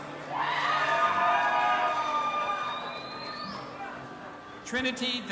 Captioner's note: audience applauding and cheering